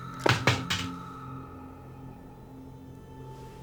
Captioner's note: gun clattering